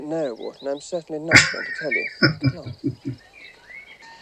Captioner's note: chuckling